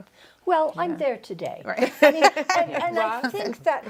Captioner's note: laughs